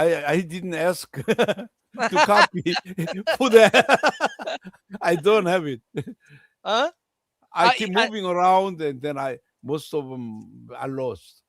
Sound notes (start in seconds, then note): 4.0 laughter